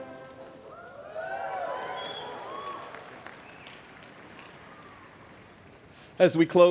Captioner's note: cheering